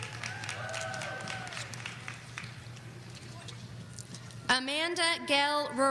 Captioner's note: audience applauding